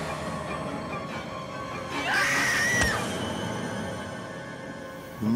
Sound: screaming

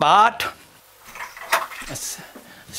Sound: cracking

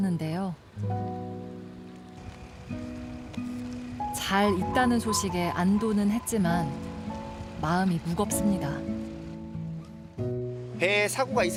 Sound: voiceover

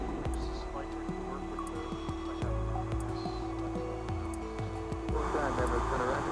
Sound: radio Chatter

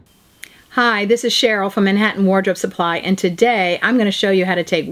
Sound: city sounds

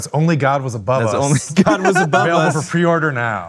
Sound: laughing

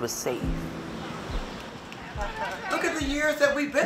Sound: children yelling in background

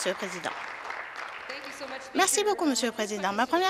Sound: applause

